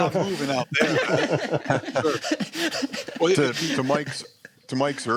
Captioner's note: laughter